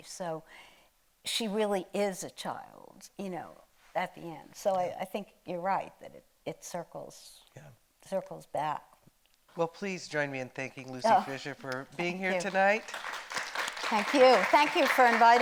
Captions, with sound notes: So she really is a child at the end. So I think you're right that it circles, circles back. - Well, please join me in thanking Lucy Fischer for being here tonight. (audience applauding) - Thank you.